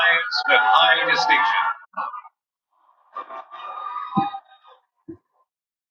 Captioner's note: cheering